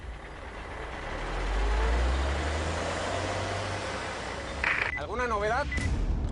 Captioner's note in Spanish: Ruido de los vehículos